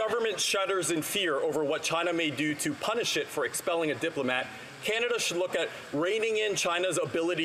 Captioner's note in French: voix de l'interprète